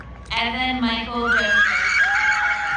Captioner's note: screaming in joy